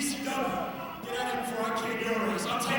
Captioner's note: crowd cheering